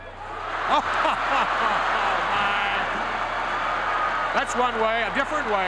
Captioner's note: crowd cheers